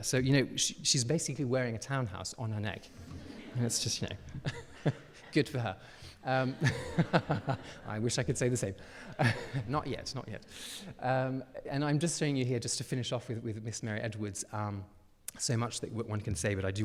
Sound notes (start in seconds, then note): 2.9 audience laughing; 6.3 laughing; 6.3 chuckles; 9.3 chuckles